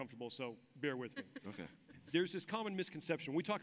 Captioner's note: laughs